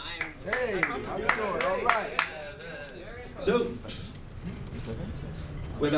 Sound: crowd murmurs and claps

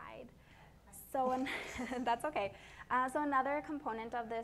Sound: laughs

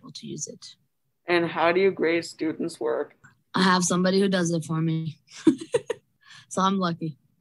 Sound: laughs

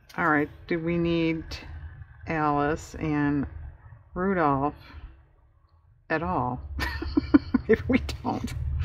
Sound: laughs

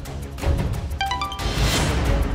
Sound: phone chimes

